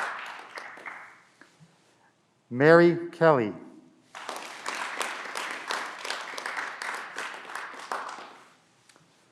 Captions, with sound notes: Mary Kelley (Clapping)